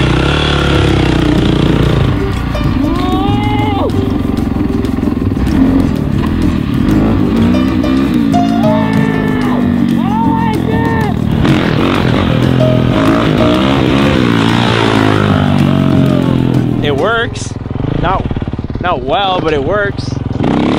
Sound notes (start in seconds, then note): 5.0 upbeat music; 12.0 engine revving